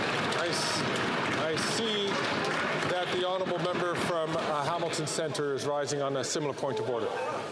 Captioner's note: some Applause